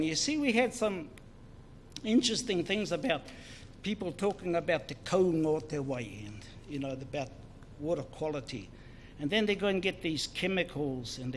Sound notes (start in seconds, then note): 0.0 foreign Language; 5.1 foreign Language